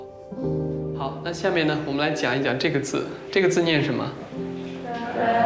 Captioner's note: hablan un idioma extranjero